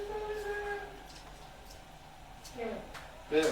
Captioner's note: indistinct chatter